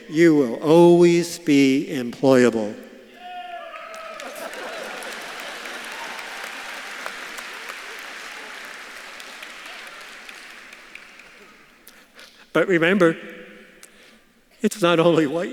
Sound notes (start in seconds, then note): 3.2 audience claps and cheers; 4.2 audience laughs